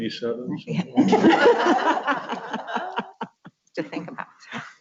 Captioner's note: laughs